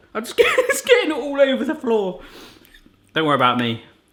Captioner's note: laughing